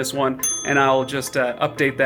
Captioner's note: bell rings